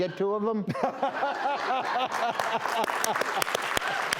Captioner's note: laughter